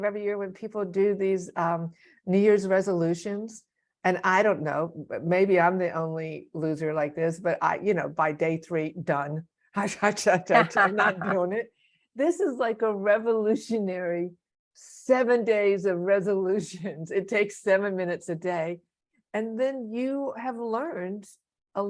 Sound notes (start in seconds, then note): 10.5 laughs